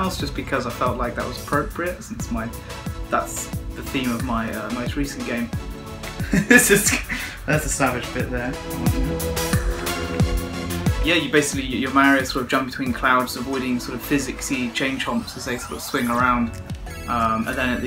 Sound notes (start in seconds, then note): 6.2 laughs